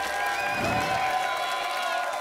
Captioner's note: applause and cheering cont; whoosh